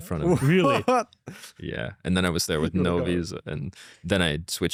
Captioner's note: laughs